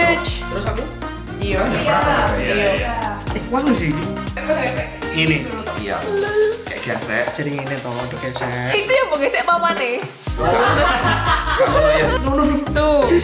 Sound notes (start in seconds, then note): 1.1 unimportant conversation in the background; 10.4 laughter